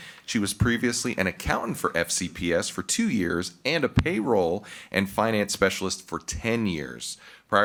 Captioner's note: none